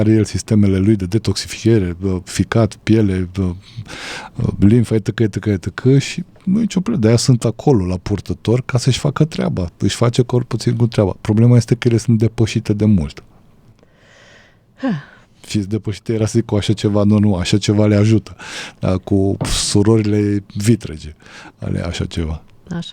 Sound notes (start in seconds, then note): 13.8 gasp; 14.8 sigh